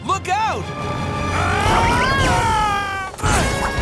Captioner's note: screaming